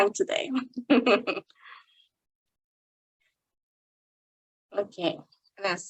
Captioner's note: chuckling